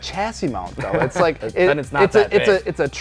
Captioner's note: laughs